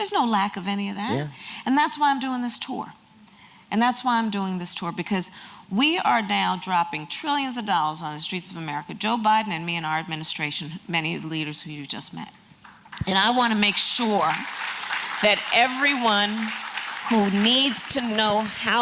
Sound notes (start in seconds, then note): 12.8 applause